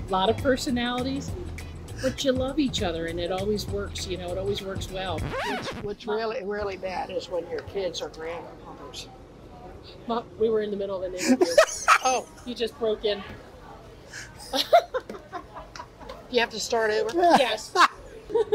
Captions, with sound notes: A lot of personalities, but you love each other, and it always works. It always works well. - What's really bad is when your kids or grandkids... - Mom, we were in the middle of an interview. (laughs) You just broke in. - Do you have to start over? - Yes.